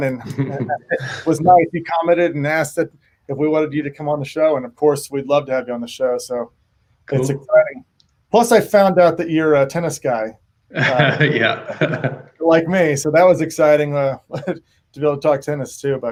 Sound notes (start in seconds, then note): 10.7 laughs